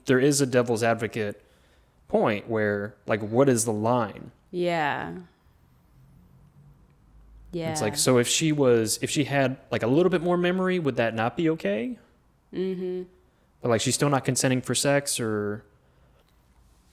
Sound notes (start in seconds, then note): none